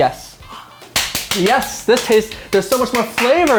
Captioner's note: clapping